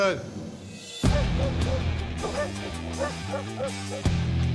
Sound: barking

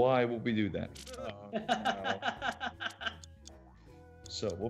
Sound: laugh

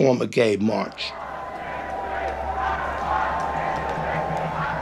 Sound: crowd chanting; rhythmic clapping

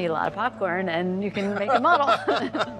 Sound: both laughing

